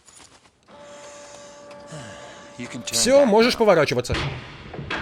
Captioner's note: <i>moans</i>